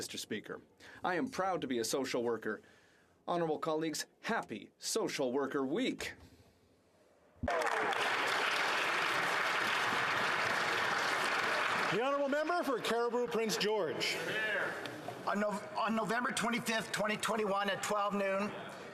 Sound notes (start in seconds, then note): 10.8 some Applause